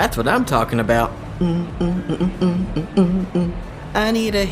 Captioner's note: Bubba starts humming